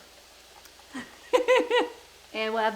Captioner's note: laughing